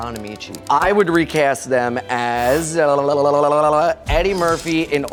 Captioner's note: jabbering